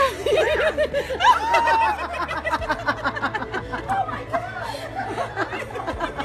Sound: excited yelps and laughter

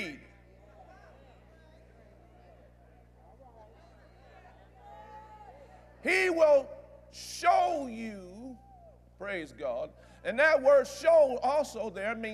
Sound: audience Agrees

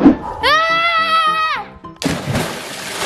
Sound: girl yells; water splashes

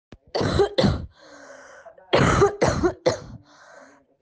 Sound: continuous coughing

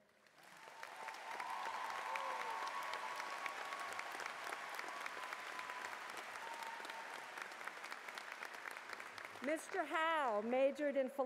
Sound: cheers and Applause

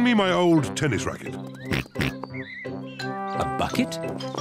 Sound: oinks

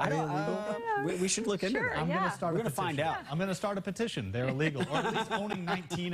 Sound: laughter

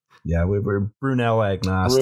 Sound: chanting

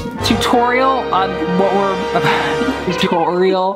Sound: laughs

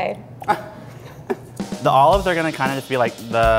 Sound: laughs

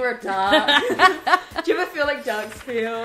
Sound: all laugh

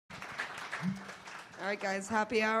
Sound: applause

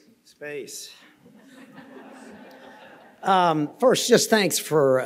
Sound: audience laughing

